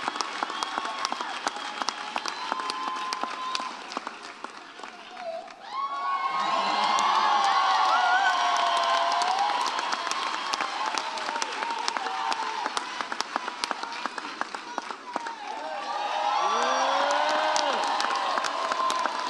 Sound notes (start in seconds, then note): 3.4 applause dies down; 6.1 audience cheers; 15.1 audience cheers